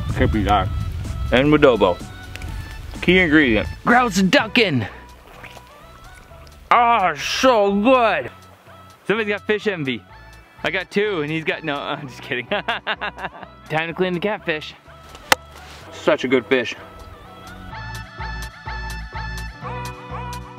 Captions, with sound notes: You can't beat that. - And wood elbow. Key ingredient. Grouse-duck-en. Ah it's so good. Someone's got fish envy. I've got two and he's got, no I'm just kidding (laughing) Time to clean the catfish. (chopping) Such a good fish. (upbeat music)